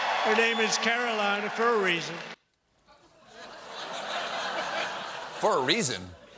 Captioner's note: cheers and applause